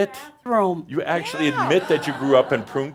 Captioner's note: more chuckles